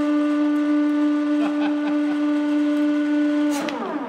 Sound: laughter

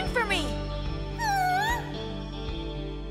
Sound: Lapras squeals

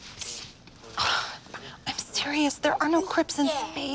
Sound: sighs

